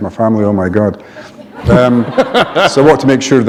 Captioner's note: laughter